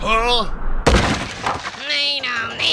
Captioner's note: loud crash